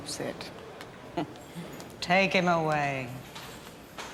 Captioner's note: chuckles